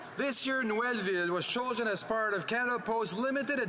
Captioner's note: speaking French